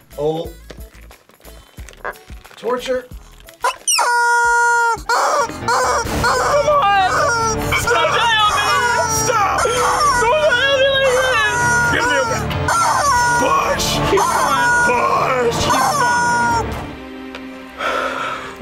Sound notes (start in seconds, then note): 3.5 chicken squeals; 16.8 somber music